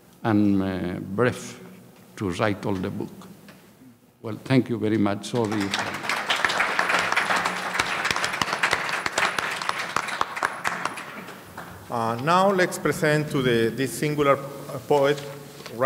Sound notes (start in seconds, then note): 5.3 audience applauding